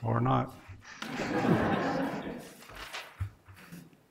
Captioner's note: laughing